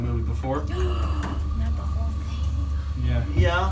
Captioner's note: gasps